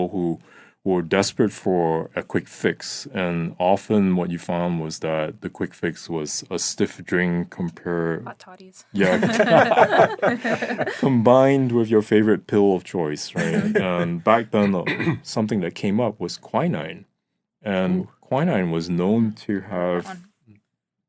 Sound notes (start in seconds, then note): 8.9 all laughing; 13.3 laughing; 14.6 clears throat